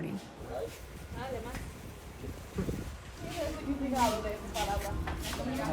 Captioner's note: offscreen chatter